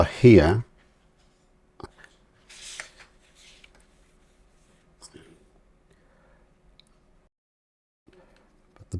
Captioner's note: silence